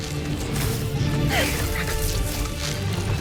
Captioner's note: arrow swooshes; grunts